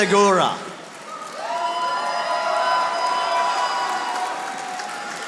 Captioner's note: audience applauding